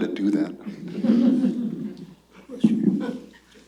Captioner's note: laughter